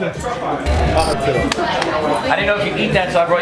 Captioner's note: people chattering